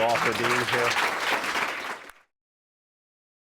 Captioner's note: applause